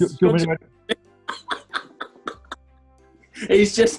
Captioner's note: laughing